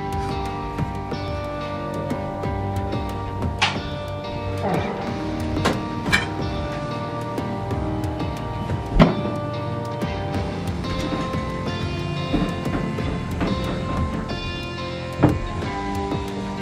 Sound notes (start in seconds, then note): 0.1 downbeat electronic music; 3.6 light switch clicks on